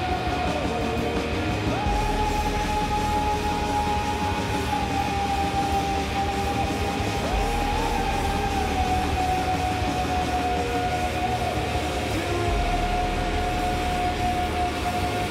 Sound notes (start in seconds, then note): 3.9 chanting; 7.7 howling over cymbals